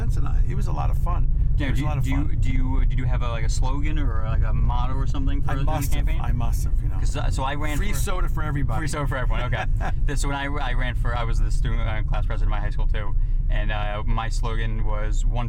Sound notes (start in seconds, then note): 9.2 laughs